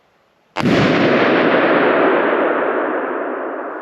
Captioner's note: balloon banging